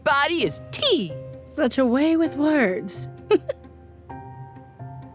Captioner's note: laughs